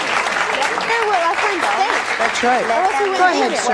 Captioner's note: overlapping chatter